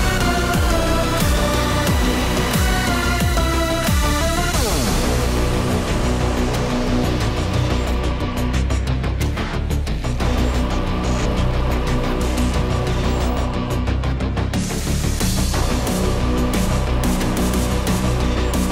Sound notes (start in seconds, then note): 4.6 machinery engine revs; 13.8 dramatic upbeat music continues